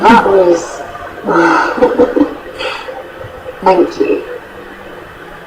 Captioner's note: laughs